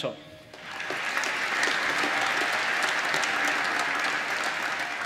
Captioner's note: applause